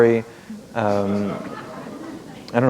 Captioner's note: laughter